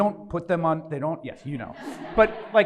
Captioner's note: audience laughs